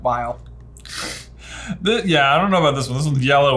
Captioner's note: laughs